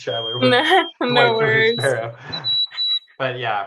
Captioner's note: laughing